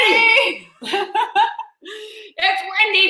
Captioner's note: laughing